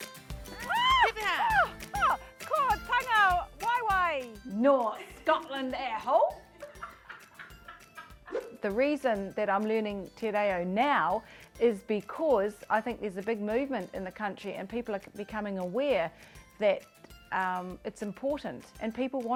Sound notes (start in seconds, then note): 6.5 laughter in background